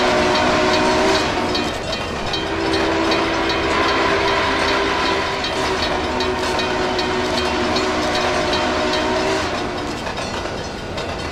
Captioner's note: UP FEF Whistle